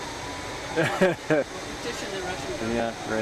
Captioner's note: laughter